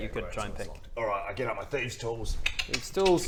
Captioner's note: click click click